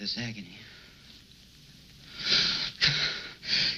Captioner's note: exhaling loudly